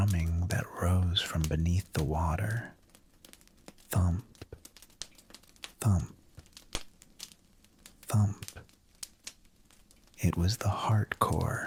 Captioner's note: thump... thump... thump